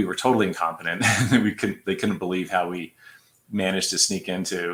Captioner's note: laughter